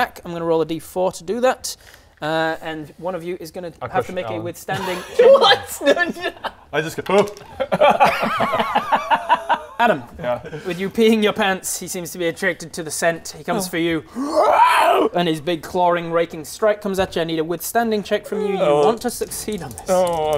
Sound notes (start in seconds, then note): 7.5 cowardly laugh; 14.1 wrwrrarrgghh!